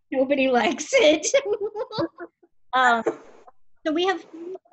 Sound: both laughing

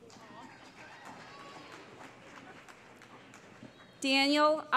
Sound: applause

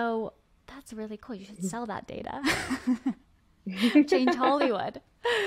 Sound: laughs

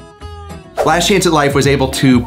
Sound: screen swooshes

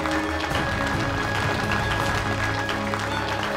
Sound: audience clapping

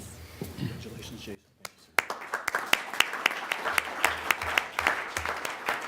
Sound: applause

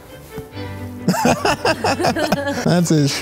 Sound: laughs

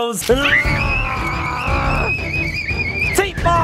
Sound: kids screaming

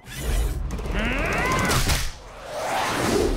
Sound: grunting

